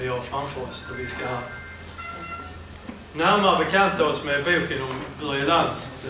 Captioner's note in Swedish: Mobilsignal